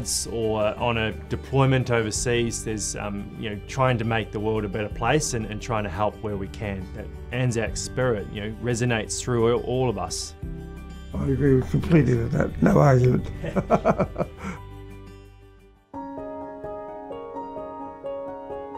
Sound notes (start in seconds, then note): 13.2 chuckles; 15.9 gentle music